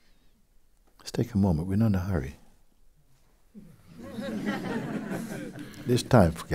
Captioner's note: laughter